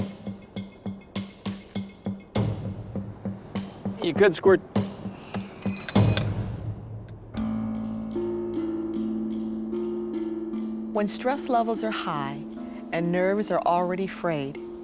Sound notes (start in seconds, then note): 5.6 tool clatters